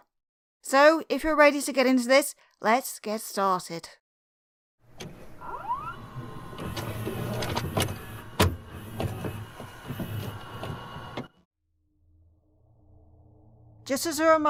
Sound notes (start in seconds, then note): 4.9 VHS noises